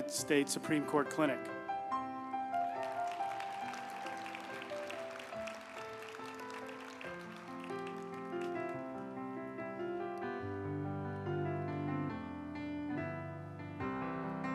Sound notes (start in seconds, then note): 2.3 uplifting music; 2.4 group applauding